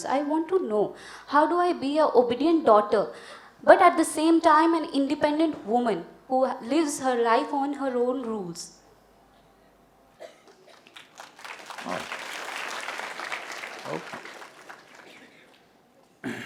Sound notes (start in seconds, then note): 10.4 applause